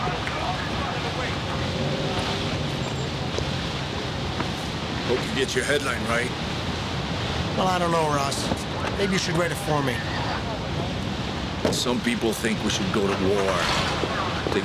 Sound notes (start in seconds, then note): 2.3 people chattering